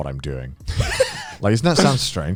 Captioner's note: Joey and Garnt laughing